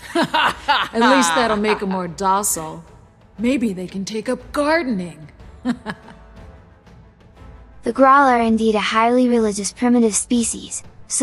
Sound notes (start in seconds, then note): 5.6 laugh